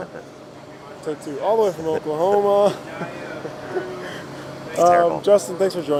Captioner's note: chuckles